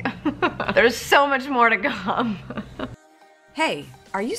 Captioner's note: laughs